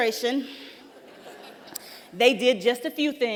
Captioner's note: laughter